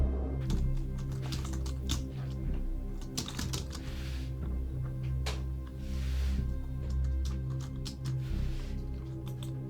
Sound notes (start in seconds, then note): 0.5 keys clacking